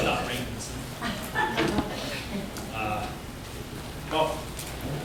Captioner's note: laughter